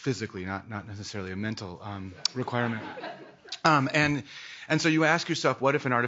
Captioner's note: laughing